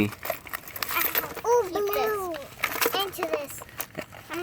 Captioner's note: coins and jewelry clanging